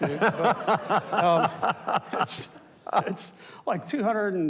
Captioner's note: and audience laughs